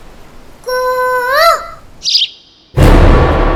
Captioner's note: Mimicking Cuckoo's voice